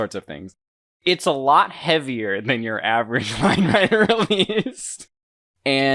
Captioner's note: laughing